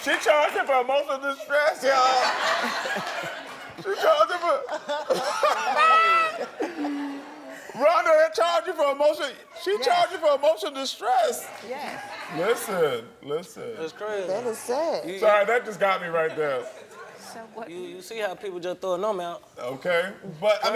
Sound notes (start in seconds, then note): 1.2 audience laughing; 5.0 all laughing; 16.1 audience laughing